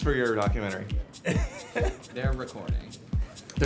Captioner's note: laughter